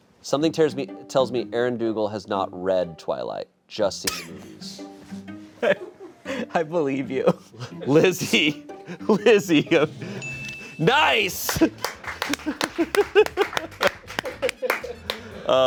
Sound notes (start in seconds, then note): 5.6 chuckling; 10.2 chime dings; 10.8 audience members clapping